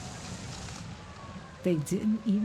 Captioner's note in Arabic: صافرة الإنذار تدوي